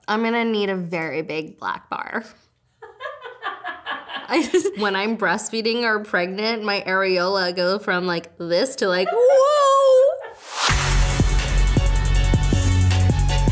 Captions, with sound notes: I'm gonna need a very big black bar. (laughing) I just... When I'm breastfeeding or pregnant, my areola goes from like this to like whoa. (upbeat music)